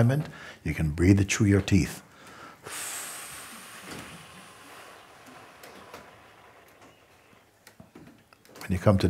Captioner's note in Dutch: langzame uitademing